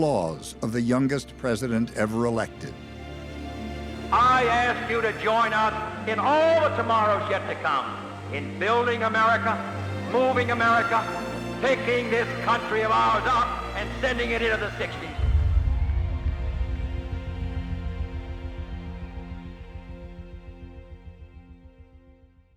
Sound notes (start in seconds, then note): 15.4 faint cheers and applause